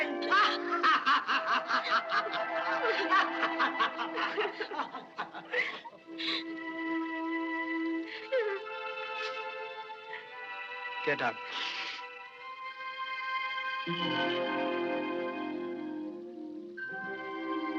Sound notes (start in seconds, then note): 0.0 laughing; 6.1 whimpees; 11.5 sniffles